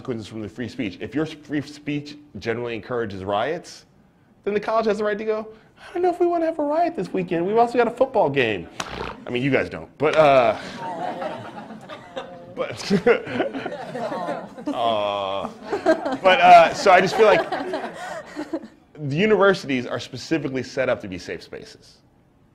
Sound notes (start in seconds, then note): 11.4 laughter